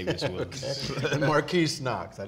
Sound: laughing

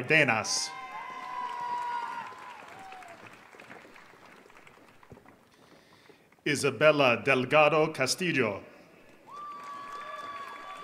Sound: applause

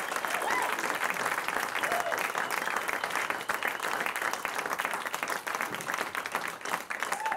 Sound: applause

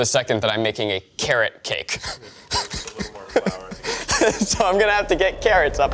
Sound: laughs

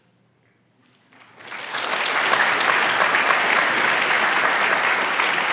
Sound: audience applauds

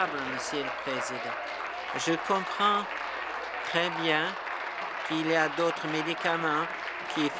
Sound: applause

